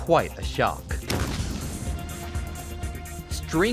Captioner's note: explosion